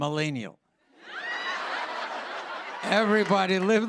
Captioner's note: laughter